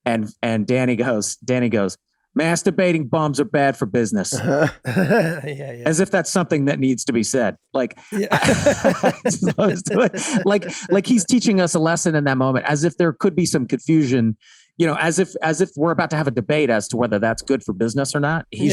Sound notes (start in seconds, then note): 4.3 Rob and Charlie laughing nostalgically; 8.1 everyone laughing amusingly